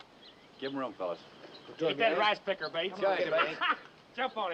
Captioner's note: scoffs